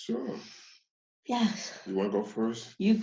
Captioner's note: sighs